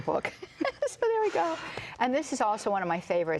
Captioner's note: both laugh